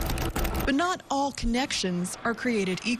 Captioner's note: nats typing